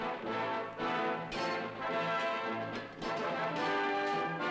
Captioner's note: swords clanging